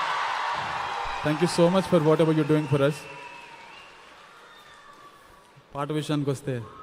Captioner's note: cheering/Applause